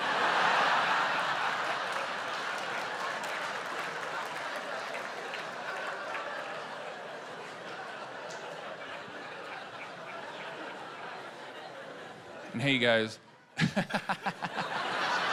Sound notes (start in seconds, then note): 0.0 laughter; 4.3 applause